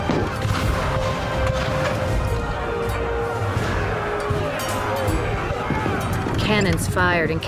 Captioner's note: cannon blasts, gunfire